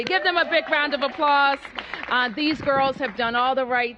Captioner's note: applause